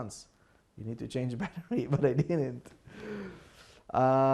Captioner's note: laughing